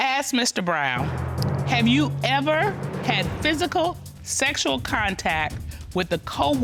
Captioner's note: none